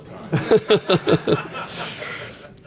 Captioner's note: laughter